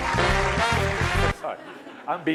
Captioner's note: laughter